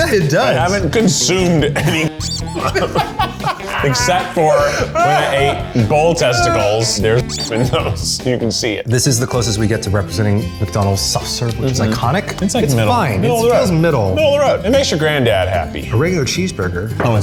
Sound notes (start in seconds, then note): 2.2 squeak; 7.2 squeak